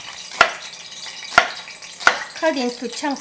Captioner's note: chopping